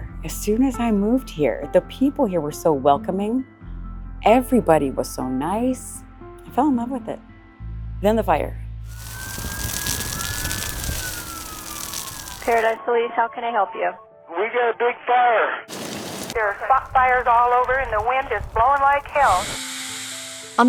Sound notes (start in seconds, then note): 8.8 police sirens blaring